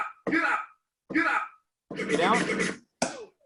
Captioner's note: record scratching